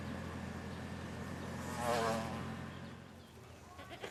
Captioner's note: motorcycle engine whirring